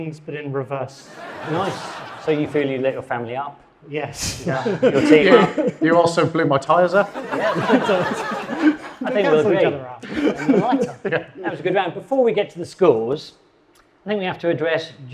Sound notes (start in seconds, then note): 1.0 audience laughing; 4.3 chuckles; 6.7 audience laughing; 10.0 laughing